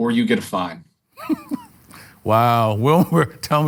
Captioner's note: laughs